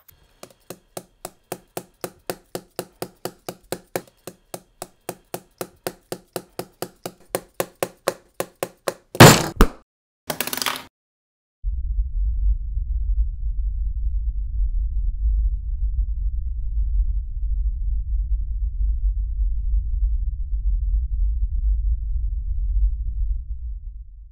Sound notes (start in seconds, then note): 0.0 pencil tapping; 7.2 tapping intensifies; 9.1 thud; 9.2 slam; 10.3 pencil rattles; 11.6 rumbling noises